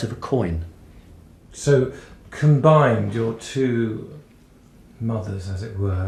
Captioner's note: voiceover